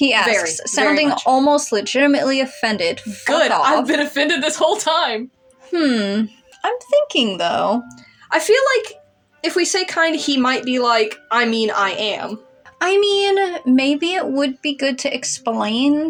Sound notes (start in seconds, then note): none